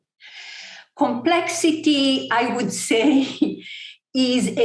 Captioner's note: chuckle